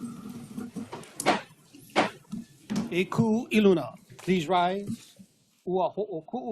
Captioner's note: gavel bangs twice